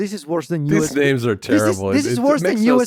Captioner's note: laughs